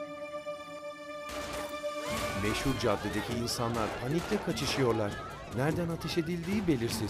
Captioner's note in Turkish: Müzik - Gerilim; Silah sesleri; Bağırma sesleri; Silah sesleri; Müzik - Gerilim